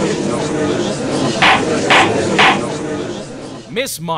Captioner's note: gallery chattering; gavel slams!